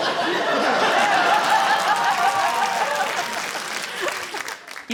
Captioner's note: cheering, applause, laughter